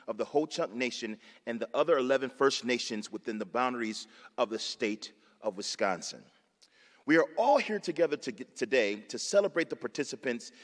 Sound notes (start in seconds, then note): none